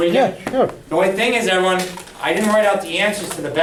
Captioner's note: voiceover